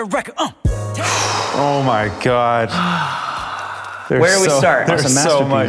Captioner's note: blows air